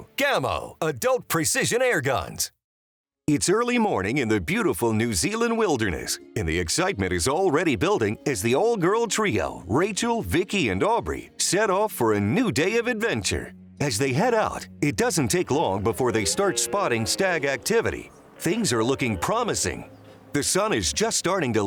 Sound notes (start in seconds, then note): 15.5 stag roaring